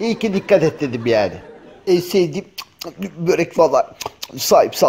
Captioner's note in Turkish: Yeme sesi